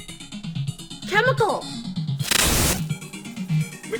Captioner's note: glitch